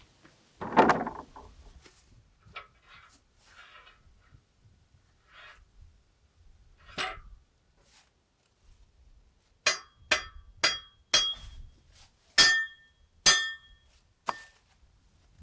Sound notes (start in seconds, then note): 9.7 metal clanging